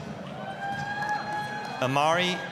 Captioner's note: applause, cheering